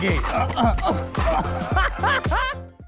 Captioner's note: groans; laughs